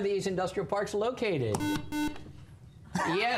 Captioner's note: buzzer